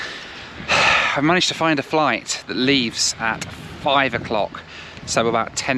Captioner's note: sigh